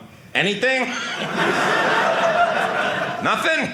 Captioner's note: audience laughing